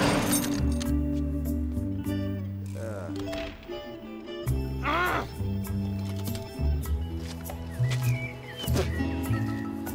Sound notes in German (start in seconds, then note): 2.8 stöhnt frustriert; 7.1 sanfte Musik